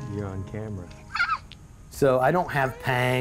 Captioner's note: girl giggles